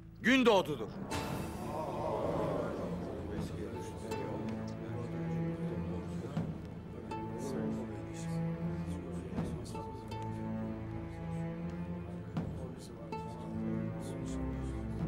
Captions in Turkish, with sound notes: ...Gündoğdu'dur. (Hep bir ağızdan) Aa aa! (Kalabalık konuşma sesleri)